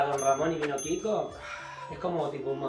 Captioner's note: sighs